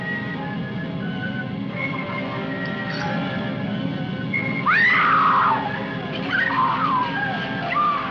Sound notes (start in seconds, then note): 4.6 screams